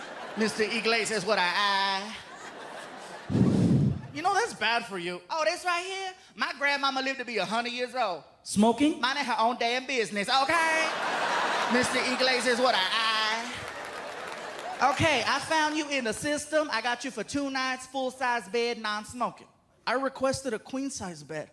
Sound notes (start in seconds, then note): 3.2 exhales